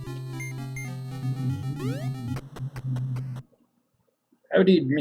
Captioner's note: humming along